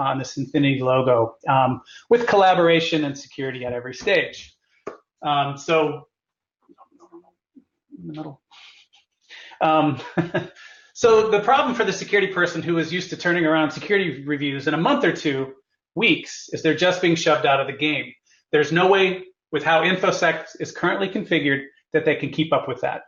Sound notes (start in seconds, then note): 5.5 laugh